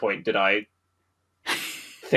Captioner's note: laughs